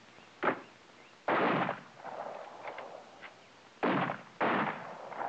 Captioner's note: rifles blasting